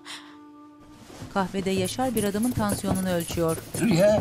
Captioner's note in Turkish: Tansiyon aleti sesi